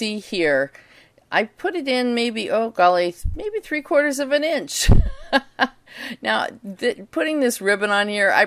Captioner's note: chuckle